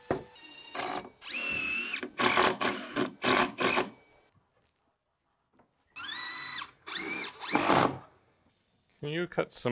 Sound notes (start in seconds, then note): 0.0 drill whirring